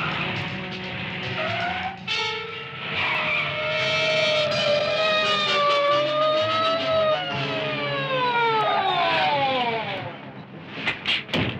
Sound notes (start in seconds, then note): 3.6 police siren